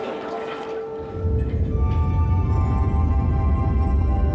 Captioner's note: rumbling